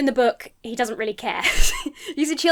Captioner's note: chuckles